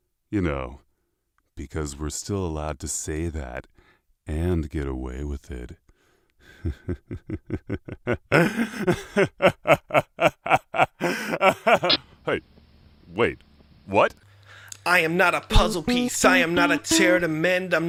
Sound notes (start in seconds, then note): 6.5 evil laughter; 8.3 louder Evil laughter; 8.3 sharp inhale; 11.2 sharper inhale